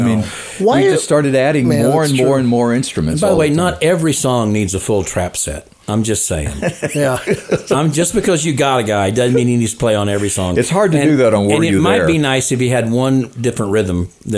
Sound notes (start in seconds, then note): 6.4 co-hosts laughing